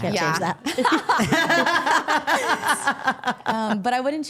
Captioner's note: all laughing